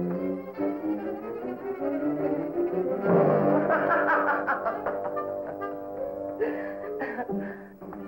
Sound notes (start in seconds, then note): 3.5 laughing